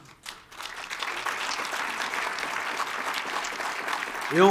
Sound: applause

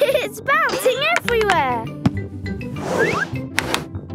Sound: laughing

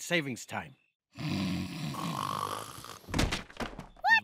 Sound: snoring

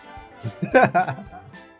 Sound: laughs

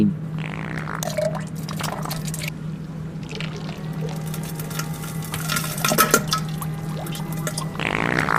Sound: more farts and poop sounds; diarrhea sound

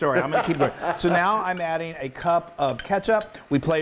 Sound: laugh

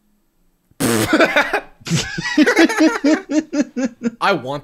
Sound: laughter

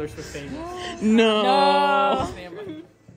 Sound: gasp

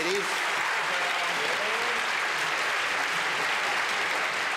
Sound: applause

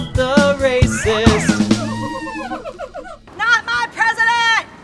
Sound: descending whistle

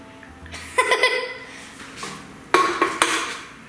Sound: laughs

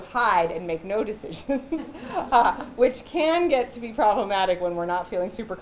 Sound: chuckles

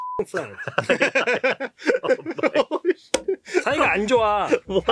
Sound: laughing; speaking in Korean

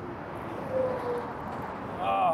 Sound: traffic roaring

